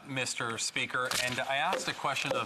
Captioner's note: speaking in french